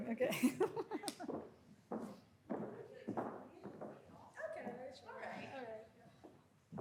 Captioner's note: chuckles